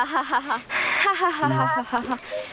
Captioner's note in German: Chiara wird leiser